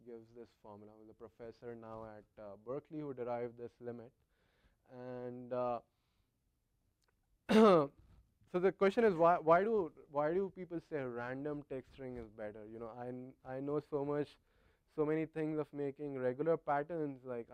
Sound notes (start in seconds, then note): 7.4 cough